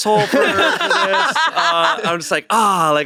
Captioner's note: everyone laughs